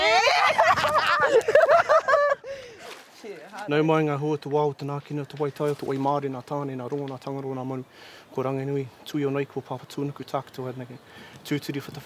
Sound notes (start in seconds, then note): 3.4 male speaking te reo Māori